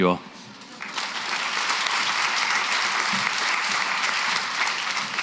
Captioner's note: applause